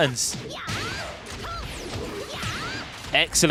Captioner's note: game sounds